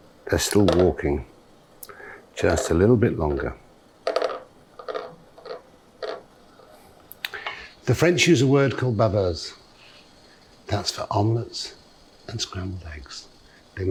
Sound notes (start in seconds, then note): 9.4 speaking in french